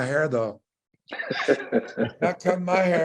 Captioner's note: panel laughs